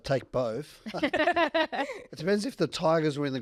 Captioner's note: laugh